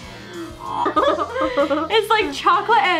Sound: laughing

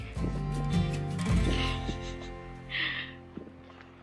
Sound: chuckles

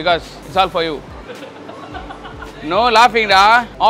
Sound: laughs

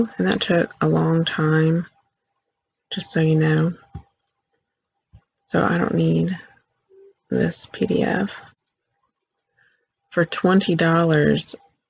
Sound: click

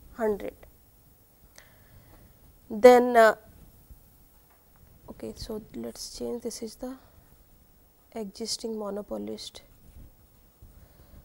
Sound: no Audio From 04:08 to 04:14

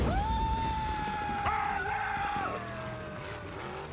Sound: screaming

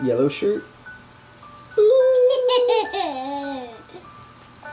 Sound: giggles

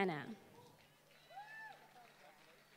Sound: applause

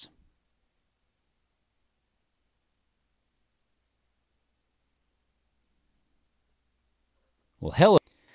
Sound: silence

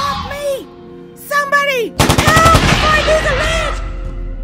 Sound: gunshots

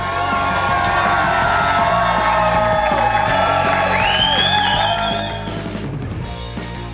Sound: crowd applauding; crowd cheering

